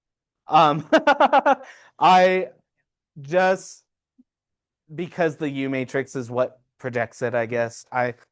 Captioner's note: laughs